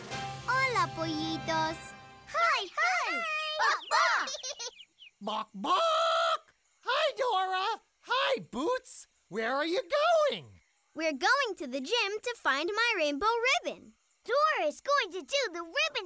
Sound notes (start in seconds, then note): 4.1 clucking, giggling; 4.8 clucking